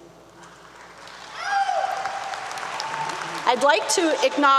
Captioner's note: applause 👏 👏